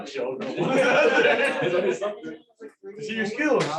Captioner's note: laughter